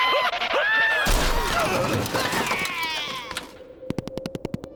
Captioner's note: screams; crash